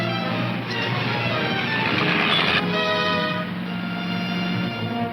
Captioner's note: engine rumbling